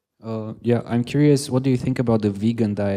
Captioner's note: voiceover